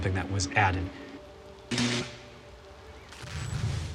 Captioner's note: zapping